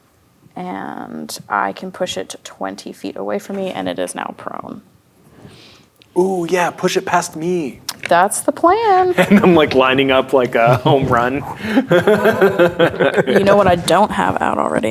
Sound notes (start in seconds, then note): 11.4 players laughing